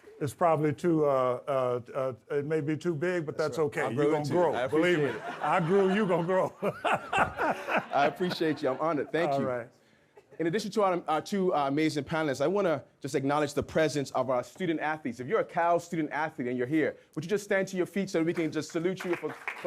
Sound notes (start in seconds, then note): 4.6 audience laughs; 8.4 Harry laughs; 18.3 audience clapping